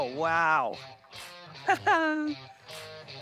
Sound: laughs

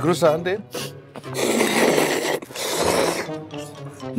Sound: eating

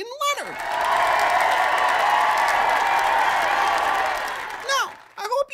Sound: cheer/applause

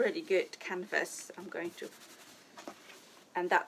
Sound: scratches fabric

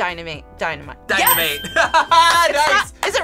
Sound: buzzer rings; laughs

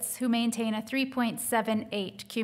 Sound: none

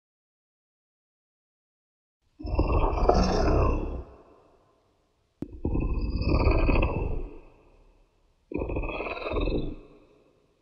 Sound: sound of dragon

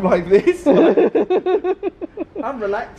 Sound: laughs

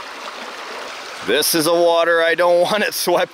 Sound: chuckling

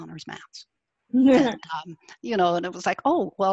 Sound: laughs

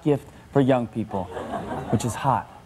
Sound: audience laughs

